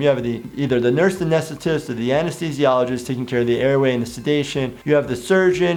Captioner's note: none